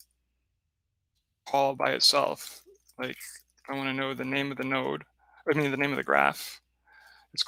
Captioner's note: none